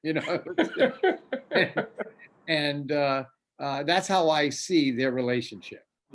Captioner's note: laughs